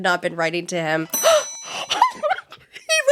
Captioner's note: gasp; crying